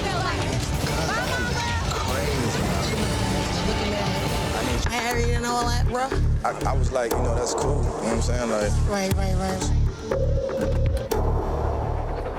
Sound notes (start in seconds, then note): 7.5 overlapping chatter